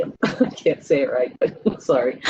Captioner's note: laughing